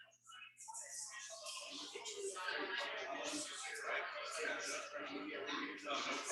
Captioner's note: people chattering indistinctly